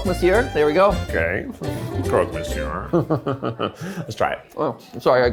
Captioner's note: chuckles